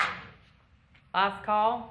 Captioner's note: applause